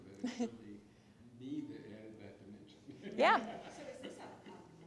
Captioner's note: laughs